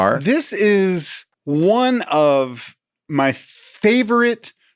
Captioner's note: none